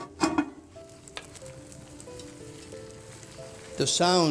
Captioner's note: fire crackling